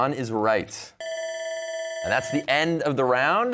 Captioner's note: bell ringing